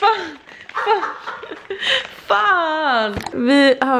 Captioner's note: laughter